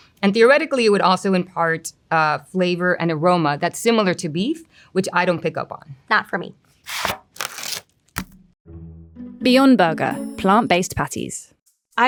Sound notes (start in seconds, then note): 6.8 plastic scraping; 8.2 patties thudding